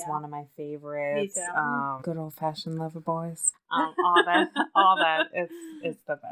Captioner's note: laughs